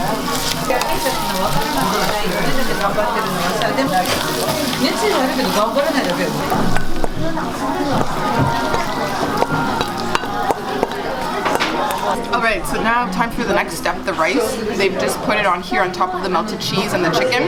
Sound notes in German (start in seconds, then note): 4.2 Zischende Geräusche